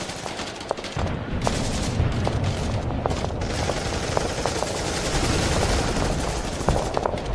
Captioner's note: guns blasting; rocks thudding